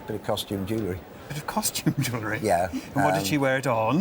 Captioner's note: laughs